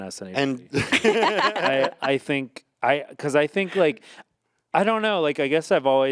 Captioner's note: group laughing